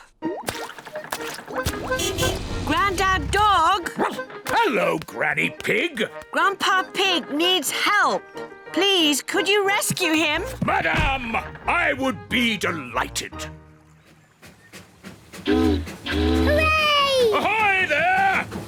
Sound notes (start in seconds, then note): 1.9 car horn honking; 4.0 barks; 14.3 chugging; 15.4 boat horn honking